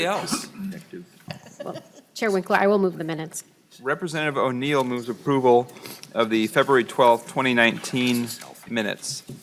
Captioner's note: laughing; laughing